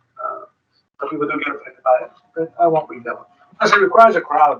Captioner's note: speaking distorted